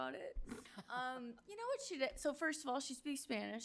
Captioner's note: board member chuckles